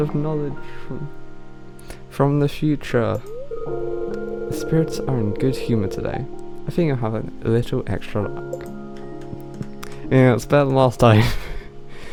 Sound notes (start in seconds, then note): 4.1 strong bri'ish accent; 11.6 laughs